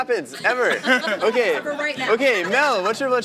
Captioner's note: laughter